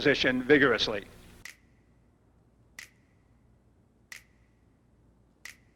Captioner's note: finger snapping sounds